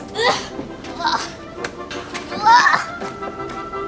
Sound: grunts

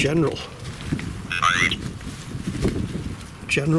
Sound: Ovilus makes sound like "night"

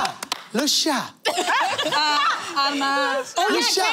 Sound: laughter

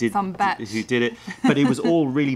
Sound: laughter

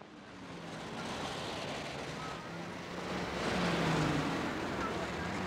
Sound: traffic whooshing

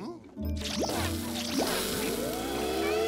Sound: sizzling

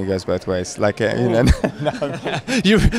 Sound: laughing

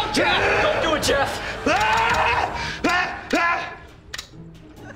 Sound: screaming

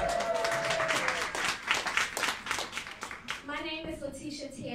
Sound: cheering and clapping

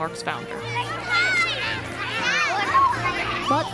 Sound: lively music; children chattering

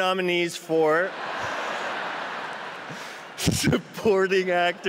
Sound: laughter

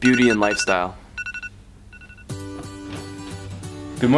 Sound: rapid beeping

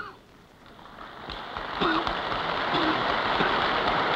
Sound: applause

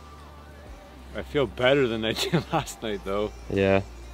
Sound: chuckling

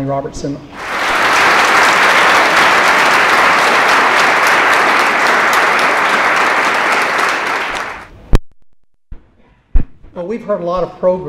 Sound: applause

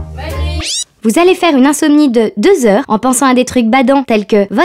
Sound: electronic voice

